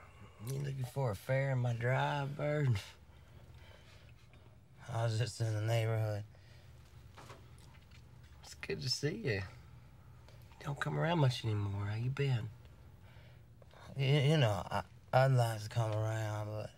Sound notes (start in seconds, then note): none